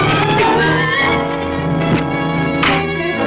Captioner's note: dramatic orchestral music; fist thuds; fists thud